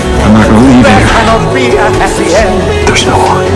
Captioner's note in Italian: declamando